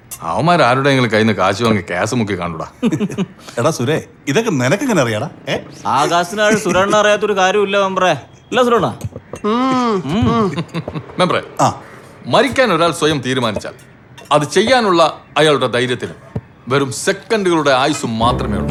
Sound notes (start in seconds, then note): 2.6 giggles